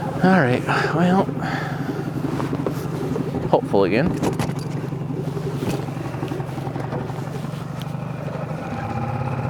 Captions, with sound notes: All right, well, hopeful again. (motor burbling)